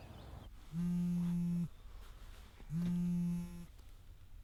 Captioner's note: phone vibrating